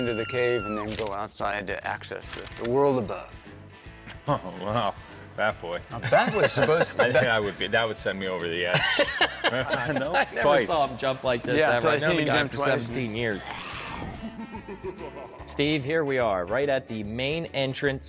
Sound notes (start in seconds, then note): 8.7 laughing; 13.3 bat boy growling; 13.4 evil laughing